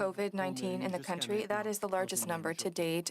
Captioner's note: speaking French